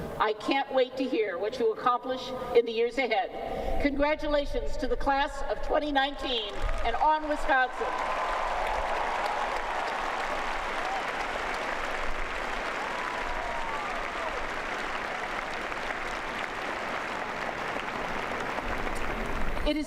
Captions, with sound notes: I can't wait to hear what you accomplish in the years ahead. Congratulations to the Class of 2019! And On Wisconsin! [ Cheers and Applause ]